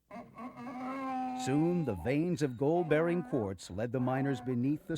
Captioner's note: braying mule